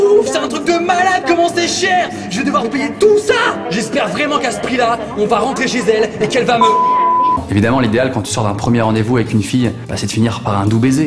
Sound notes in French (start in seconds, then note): 6.6 bip